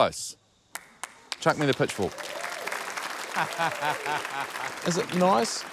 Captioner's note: applause, cheering, laughter